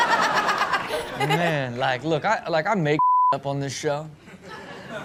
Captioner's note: laughs; beep